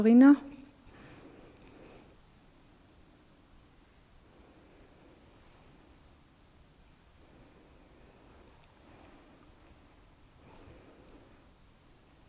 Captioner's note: silence in the background